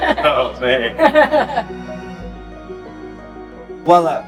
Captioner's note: laughs